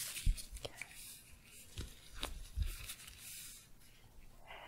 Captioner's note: shuffling